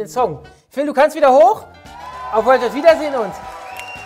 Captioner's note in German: Jubel